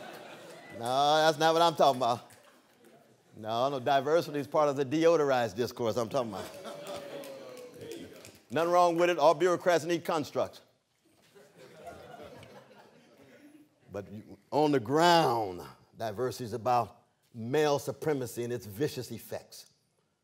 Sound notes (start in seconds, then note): 6.4 laughter; 11.1 laughter